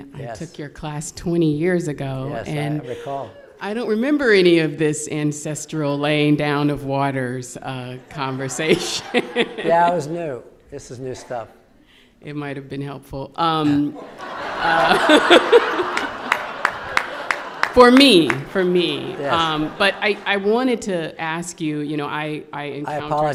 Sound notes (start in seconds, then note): 13.7 audience laughing